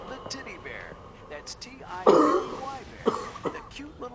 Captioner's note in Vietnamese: tiếng ho